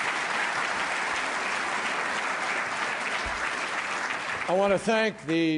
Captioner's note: applause